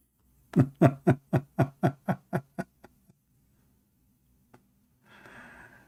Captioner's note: Ketawa